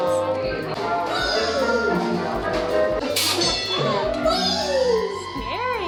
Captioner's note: Pygmy Puff yelling in the background